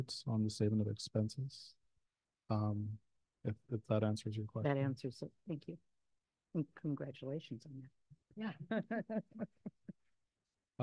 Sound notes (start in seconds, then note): 8.6 chuckles